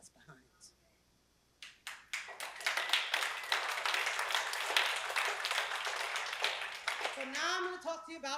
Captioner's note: applause